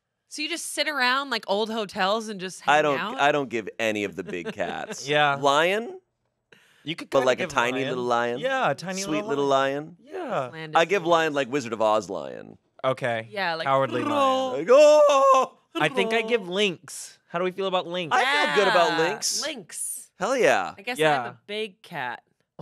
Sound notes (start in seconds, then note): 13.8 mimics Cowardly Lion roar; 15.8 yells